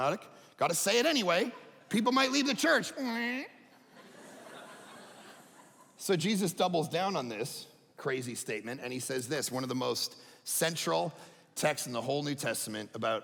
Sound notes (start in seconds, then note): 3.8 audience laughing